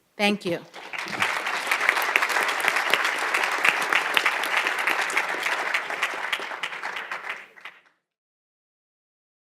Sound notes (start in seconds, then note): 0.6 applause